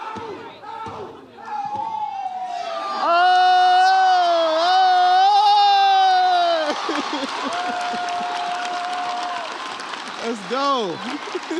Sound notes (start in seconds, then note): 3.4 audience cheers